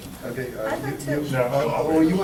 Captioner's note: multiple voices speaking